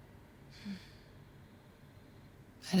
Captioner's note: sighs